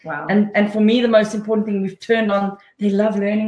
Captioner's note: none